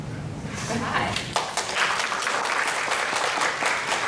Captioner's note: applause